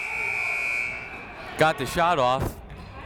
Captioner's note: siren buzzing